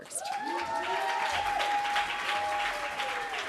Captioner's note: applause